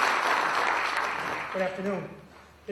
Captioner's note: applause